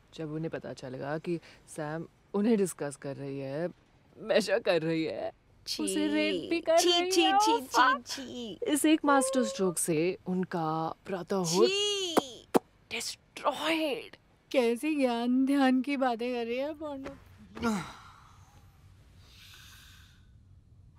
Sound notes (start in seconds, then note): 17.6 grunts